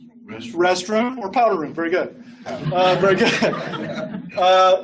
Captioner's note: laughs